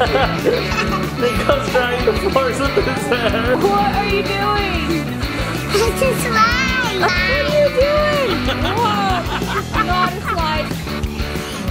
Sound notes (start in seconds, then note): 1.2 laughs